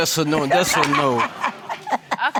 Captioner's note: means' fiance laughing